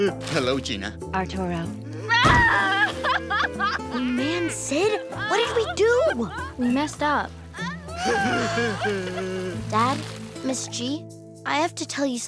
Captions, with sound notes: - Hello Gina. - Arturo. [sobbing] Oh man, Sid. What did we do? We messed up. [sobbing] Dad, Ms. G. I have to tell you something.